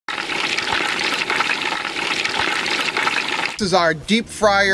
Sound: water boiling

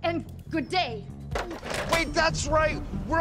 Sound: phone slams down

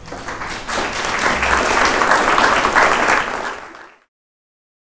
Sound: applause

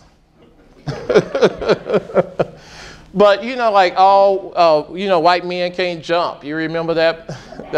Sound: laughing

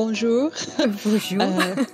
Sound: laughter

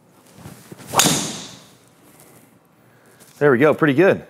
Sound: golf club whacking ball

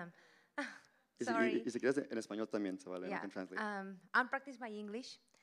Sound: Spanish language

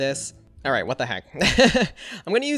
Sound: laughs

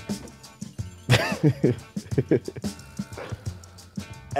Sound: laughing

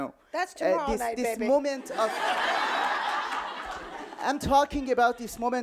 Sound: audience laughing

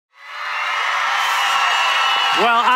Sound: audience cheering

